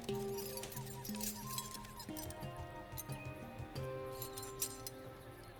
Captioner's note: keys rattle